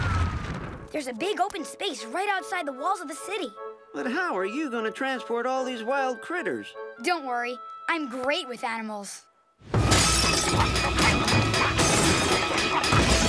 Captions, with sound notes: There's a big, open space right outside the walls of the city. But how are you going to transport all these wild critters? Don't worry, I'm great with animals. [shattering]